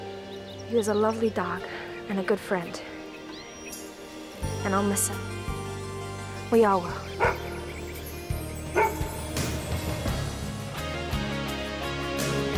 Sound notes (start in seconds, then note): 8.7 Bob barks; 9.4 dramatic electronic music